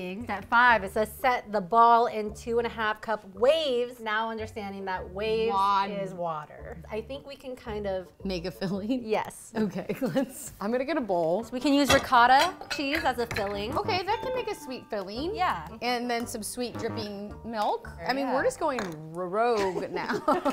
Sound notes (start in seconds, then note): 16.8 buzzer sounds; 19.9 laughs